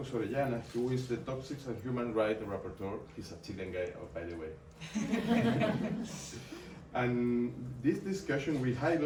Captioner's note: audience laughing